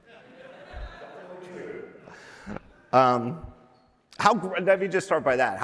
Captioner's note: laughter